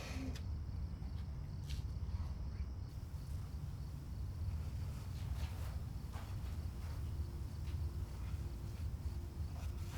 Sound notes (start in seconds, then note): 3.8 feet shuffling; 4.3 insects chirping